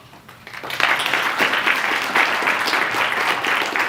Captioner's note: applause